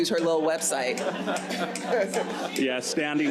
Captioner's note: audience laughs